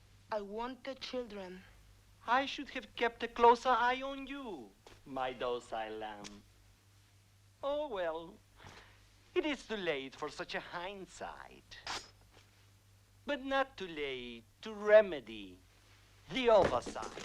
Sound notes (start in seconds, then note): 12.0 blade swishes